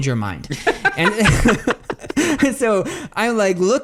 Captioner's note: both laugh